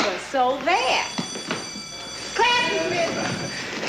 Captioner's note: class bell ringing